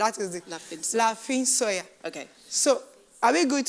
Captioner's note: speaking in foreign language